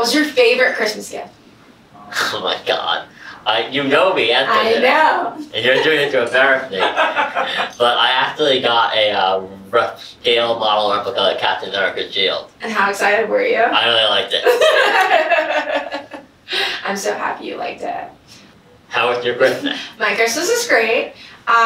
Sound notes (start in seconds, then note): 7.0 laughs; 14.3 laughing